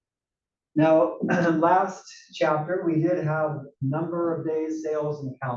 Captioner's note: cough